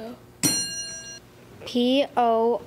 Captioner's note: ding